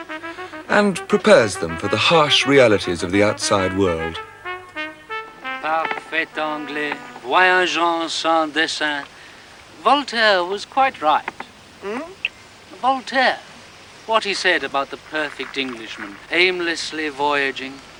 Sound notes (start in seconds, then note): 5.1 speaking in french